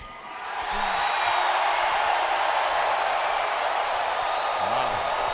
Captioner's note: crowd cheering